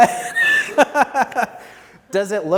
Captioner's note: laughs